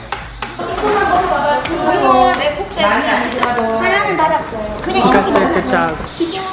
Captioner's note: speaking foreign language